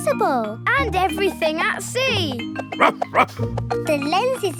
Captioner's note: barking